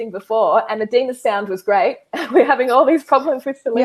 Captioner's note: chuckles